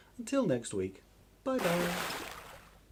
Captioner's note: big Splash!